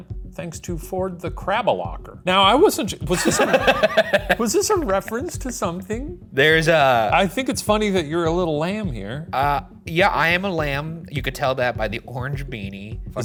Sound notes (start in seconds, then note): 3.1 laughs